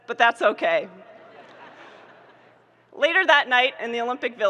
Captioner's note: audience laughing